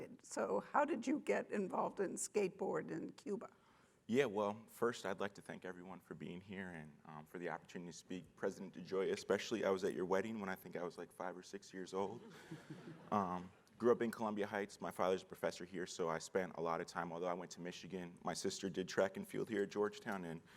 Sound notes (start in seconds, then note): 12.2 audience chuckling